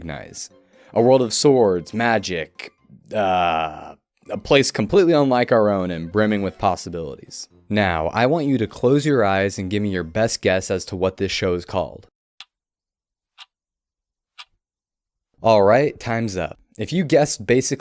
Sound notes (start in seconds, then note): 13.4 clock Ticking